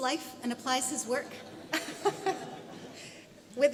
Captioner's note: audience laughs